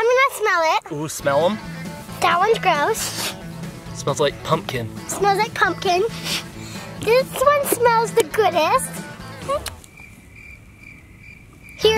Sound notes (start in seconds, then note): 2.9 inhales; 6.1 inhaling; 9.7 crickets chirping